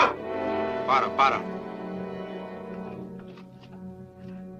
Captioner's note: officer speaks Spanish